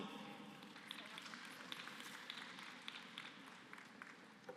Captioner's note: applause